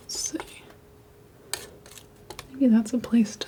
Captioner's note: tapping